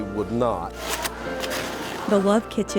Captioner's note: shuffling